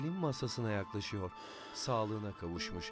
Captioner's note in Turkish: Nefes sesi